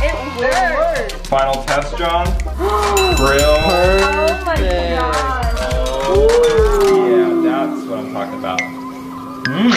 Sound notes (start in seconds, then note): 2.7 gasps